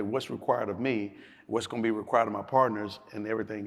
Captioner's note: none